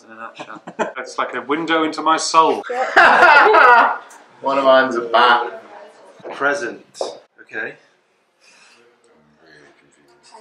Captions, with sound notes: [Laughs] It's like a window into my soul! [LAUGHS] One of mine is a bat! Present. Okay. I'm really confused.